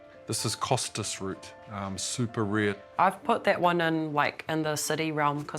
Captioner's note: none